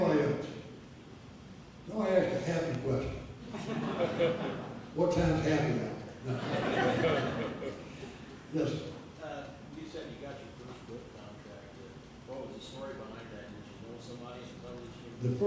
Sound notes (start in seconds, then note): 3.4 audience laughter; 6.2 audience laughter